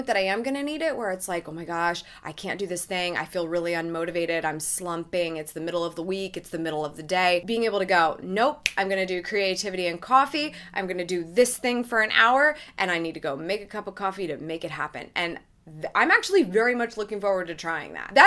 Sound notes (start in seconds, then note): 8.6 snaps